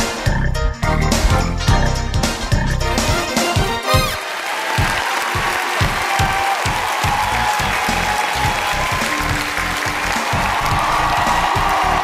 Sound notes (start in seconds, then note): 3.8 cheering